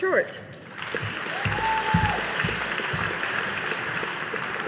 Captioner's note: audience applauding